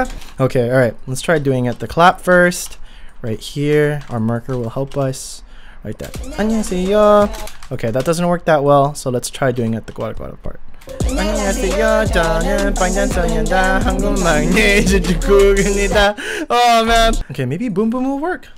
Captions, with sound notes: Okay. Alright, let's try doing it the clap first right here Our marker will help us right there ANNYEONGHASEYO JEONEUN Okay, that doesn't work that well, so let's try doing it the gwara gwara part ANNYEONGHASEYO JEONEUN BANGTAN SONYEONDAN HWANGGEUM MAKNAE JEON JUNGKOOK IMNIDA! *INHALE* OHH MAN Okay maybe Boom Boom will work